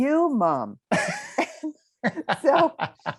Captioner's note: laugh